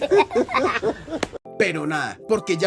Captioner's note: laughs